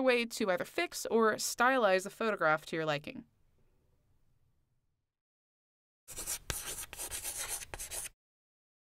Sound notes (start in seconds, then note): 6.1 chalk on chalkboard